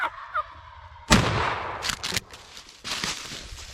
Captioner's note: gun shot